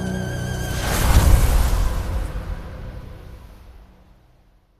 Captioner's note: sandstorm